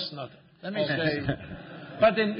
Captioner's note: laughter